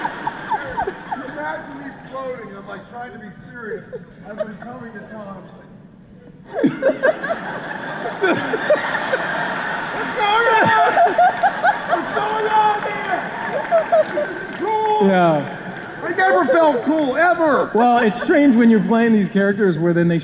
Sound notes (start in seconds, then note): 0.0 laughter; 6.4 laughter